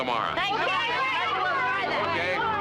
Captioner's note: clamoring